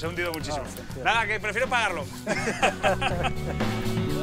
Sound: laugh

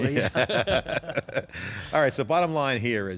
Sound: laughter

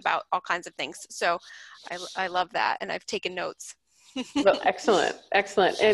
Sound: chuckles

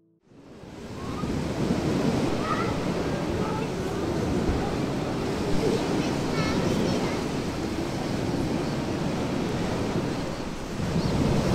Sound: children playing at the beach, seagulls shriek

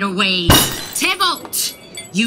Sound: bang on the table

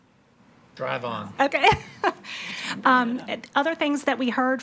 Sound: laughs

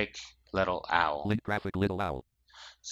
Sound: screen reader voice

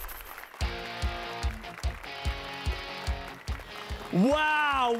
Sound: applause and cheers

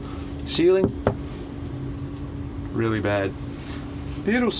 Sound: tap

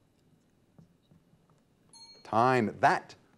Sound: timer dings

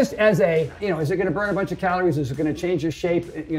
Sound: none

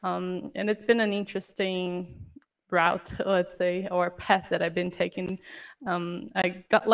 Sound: audio cutting out

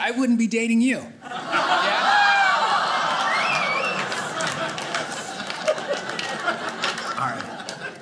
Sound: audience cheering

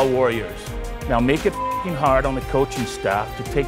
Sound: beep

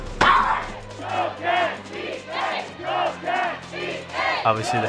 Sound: cheering

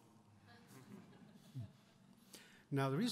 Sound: audience chuckles

